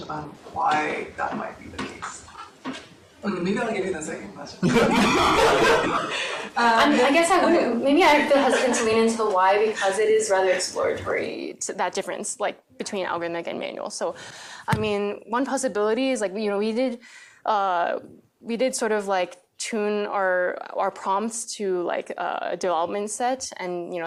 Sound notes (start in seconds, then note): 4.6 laughter